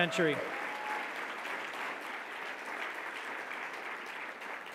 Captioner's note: audience clapping